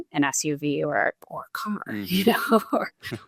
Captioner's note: chuckles